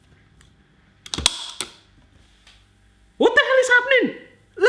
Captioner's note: clicking noise